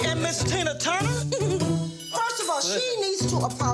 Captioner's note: giggles